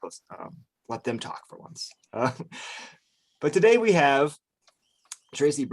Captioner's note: chuckles